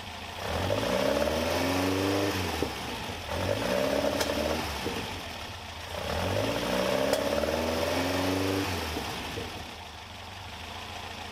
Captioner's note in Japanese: エンジン音